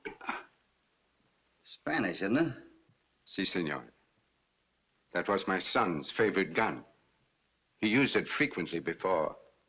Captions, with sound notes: Spanish, ain't it? [ IN SPANISH ] Yes, sir... that was my son's favorite gun, he used it frequently before...